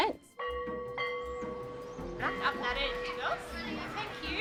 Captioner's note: school bell